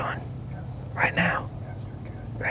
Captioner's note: whispering